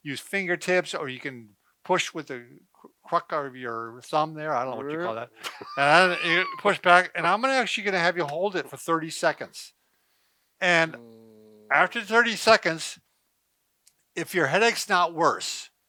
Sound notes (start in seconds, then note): 4.9 chuckles